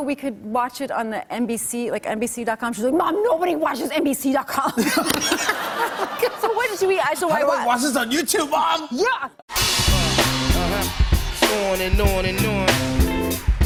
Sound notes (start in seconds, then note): 4.6 laughter